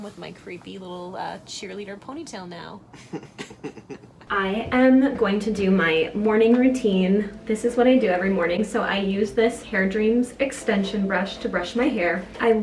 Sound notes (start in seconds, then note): 2.9 laughing